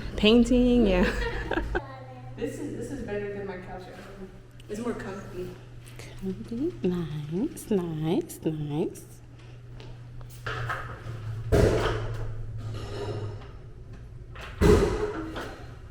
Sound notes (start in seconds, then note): 1.0 laughs; 11.5 banging in background